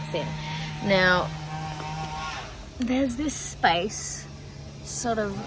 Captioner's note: house sanding continues unabated